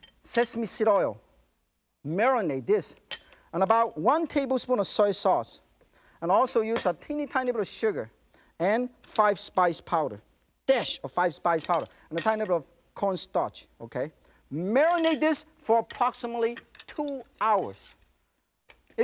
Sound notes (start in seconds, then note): none